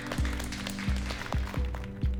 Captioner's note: scattered applause